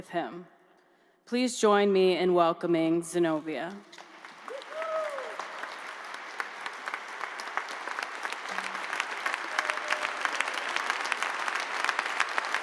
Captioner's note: cheers and applause